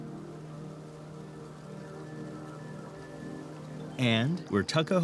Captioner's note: wind